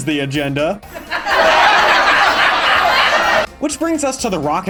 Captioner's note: laugh track